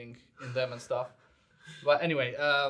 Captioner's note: chuckles